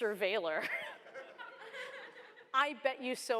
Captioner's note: laughter